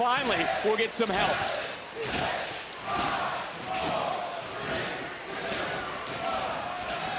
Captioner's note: crowd doing count down